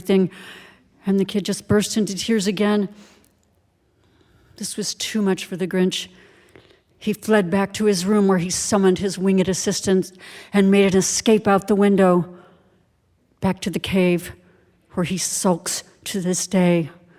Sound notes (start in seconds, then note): none